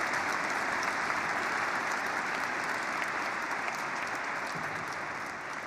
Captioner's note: applause